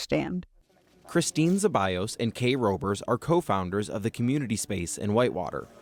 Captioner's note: voice-over